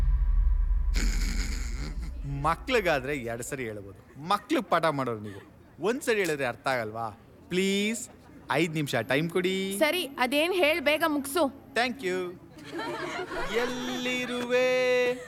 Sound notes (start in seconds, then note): 12.5 students Laugh in the classroom; 12.9 song